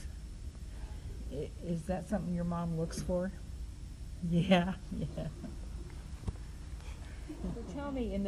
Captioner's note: laughs